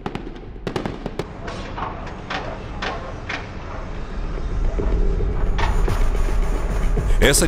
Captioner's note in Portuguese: Exemplo de barulho de obras